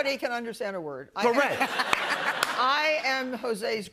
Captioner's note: laughter